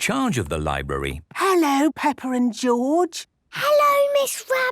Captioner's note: whispering